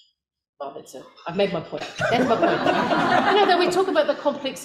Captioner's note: audience laughter